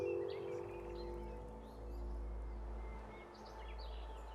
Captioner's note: gentle music; birds chirping